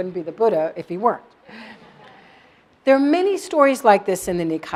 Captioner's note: laugh